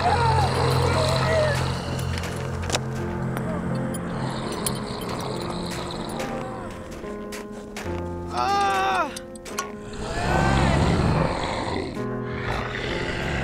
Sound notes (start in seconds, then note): 0.0 zombie growls; 0.3 man crying; 2.7 latch clicks; 5.7 somber music; 9.8 zombies growling; 9.9 Roger moans